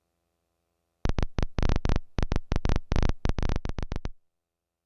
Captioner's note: beeping